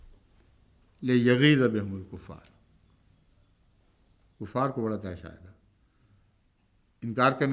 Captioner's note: Arabic